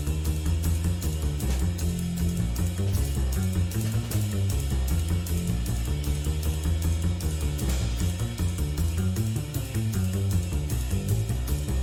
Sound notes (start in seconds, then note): none